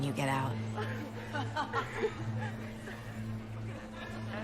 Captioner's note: laughing